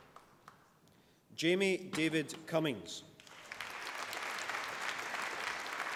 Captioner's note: applause